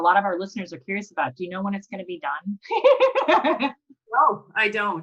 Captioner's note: laughs